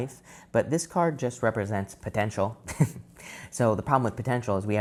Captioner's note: chuckles